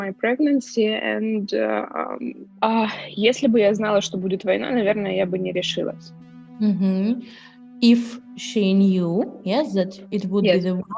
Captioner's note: speaking Ukrainian